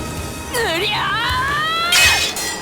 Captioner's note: war cry